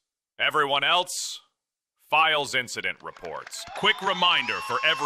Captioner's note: audience laughs, applause